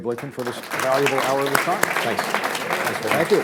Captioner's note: applause